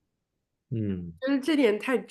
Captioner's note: nonverbal grunt as interjection